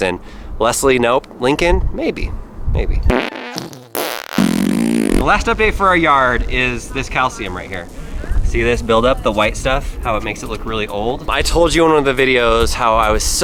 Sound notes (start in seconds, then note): 3.0 fart noises